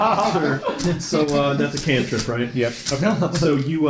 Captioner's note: laughter